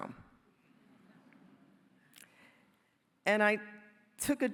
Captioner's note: soft laughter